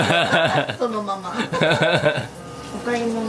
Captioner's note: laugh